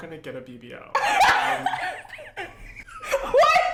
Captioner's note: laughs